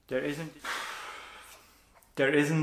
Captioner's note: sighs heavily